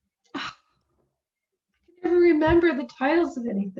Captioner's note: scoffs